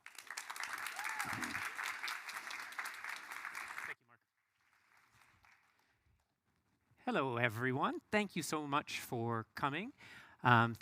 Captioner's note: applause